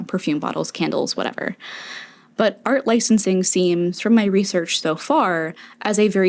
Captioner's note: inhale